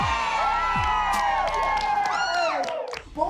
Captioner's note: cheering